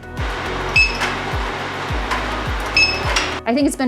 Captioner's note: scanner beeps